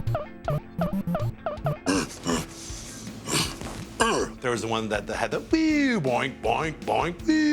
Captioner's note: arcade sounds; grunting